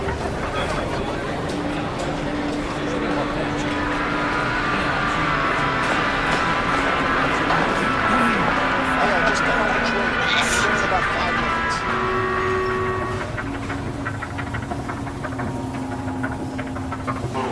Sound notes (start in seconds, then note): 0.2 citizens laughing; 10.2 citizen sneezing; 11.9 electronic beeping